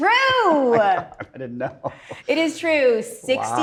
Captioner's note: laughs